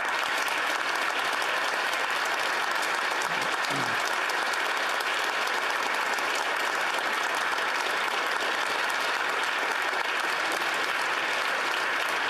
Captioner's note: applause